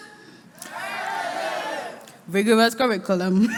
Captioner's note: crowd shouts